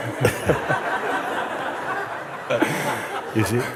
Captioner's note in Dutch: gelach